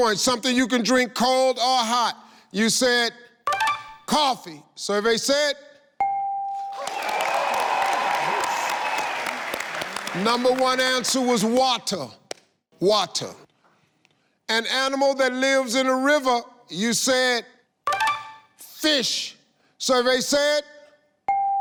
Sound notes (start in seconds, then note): 6.0 bell chimes; 6.6 audience cheers